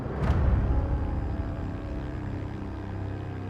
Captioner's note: plane engine hums